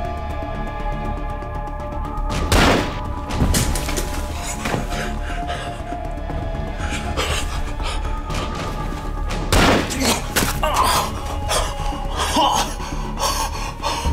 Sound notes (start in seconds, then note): 2.5 gun firing; 9.5 gun firing; 9.9 grunting